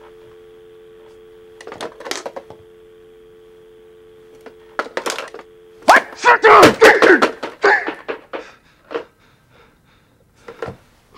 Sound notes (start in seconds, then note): 0.0 dialtone; 5.8 Kent exclaims